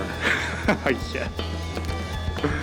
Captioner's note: snickering